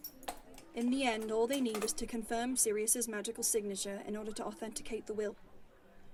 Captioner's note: keys jangling